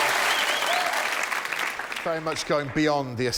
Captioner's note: applause